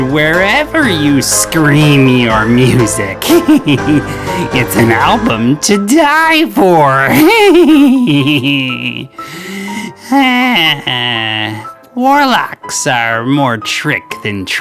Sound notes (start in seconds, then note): 3.2 odd laughing; 7.1 forced laughing; 9.1 akward sigh